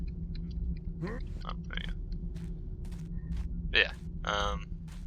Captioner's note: Garrett grunts